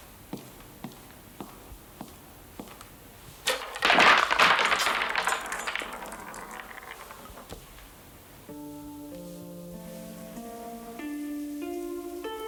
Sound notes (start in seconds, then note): 3.4 balls clattering; 8.4 gentle music